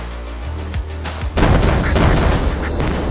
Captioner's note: cannon fire